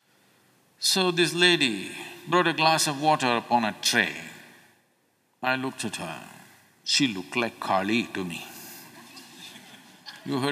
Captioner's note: few Laugh